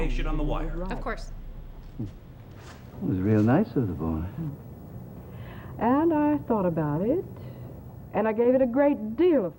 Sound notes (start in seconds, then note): 1.9 on TV